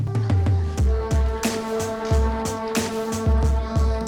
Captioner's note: group murmuring